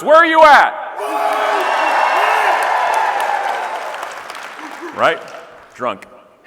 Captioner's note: audience cheering and clapping